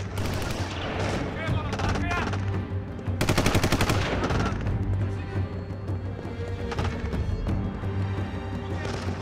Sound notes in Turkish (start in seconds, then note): 3.4 Silah sesleri